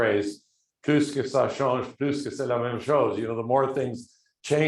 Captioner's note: speaking foreign language